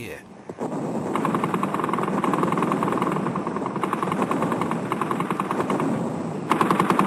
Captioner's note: artillery blasting; guns firing